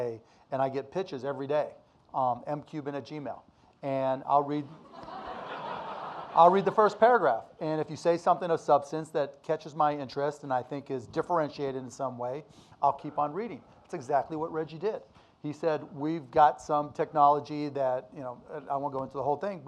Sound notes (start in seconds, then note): 4.8 audience laughing